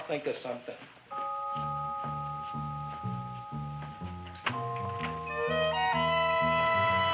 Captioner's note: placid music; door rattling